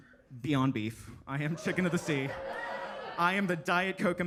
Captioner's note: attendees laughing